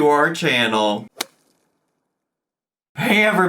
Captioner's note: logo thuds